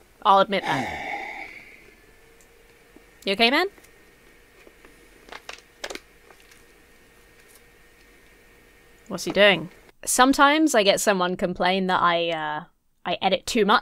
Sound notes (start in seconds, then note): 0.5 sighs; 5.4 something off-camera crinkles